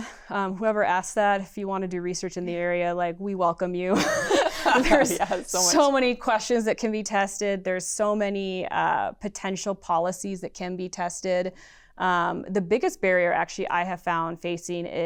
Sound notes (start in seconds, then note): 3.9 laughter